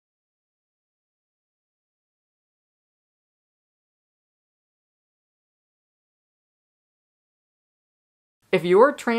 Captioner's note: no audio